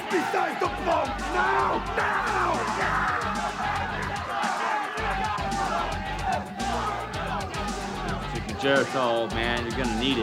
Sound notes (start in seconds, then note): 3.1 group chattering; 3.1 upbeat music continues